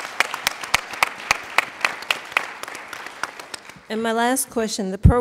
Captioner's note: applauding